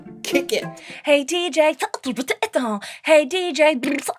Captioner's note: beatboxing